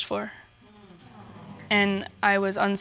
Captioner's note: audience murmurs